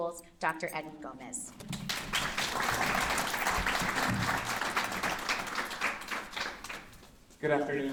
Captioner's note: applause